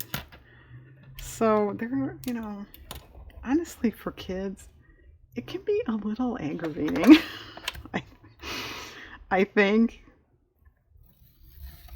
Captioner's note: laughs